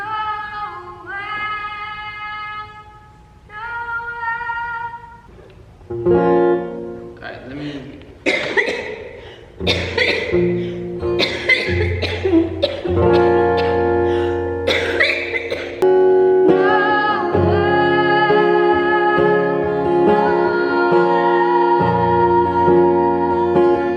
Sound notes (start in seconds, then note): 5.8 guitar strumming; 8.9 coughing